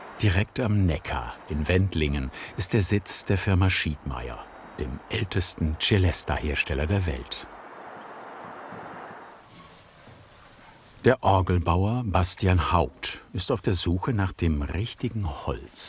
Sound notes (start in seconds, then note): none